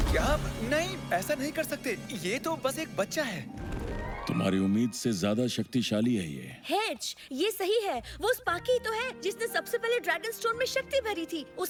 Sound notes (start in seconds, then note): none